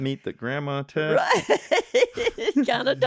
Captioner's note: laughing